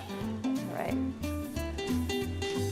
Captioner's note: sizzling